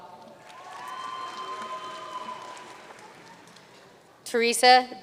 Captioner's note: audience cheering and applauding